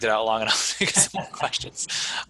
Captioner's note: man laughing; laughs